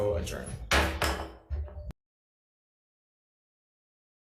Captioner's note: gavel bangs